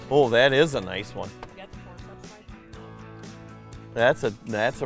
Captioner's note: voiceover